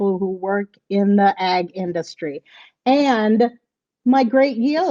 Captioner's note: none